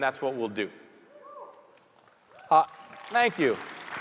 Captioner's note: audience member cheering